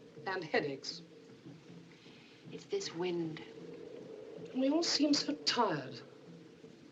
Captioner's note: none